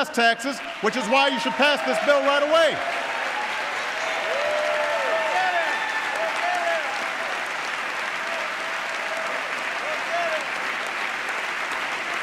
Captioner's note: applause